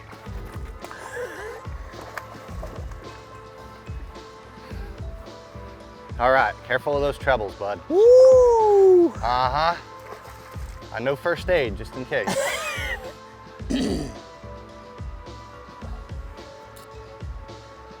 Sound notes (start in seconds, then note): 12.2 chuckles; 13.6 clears throat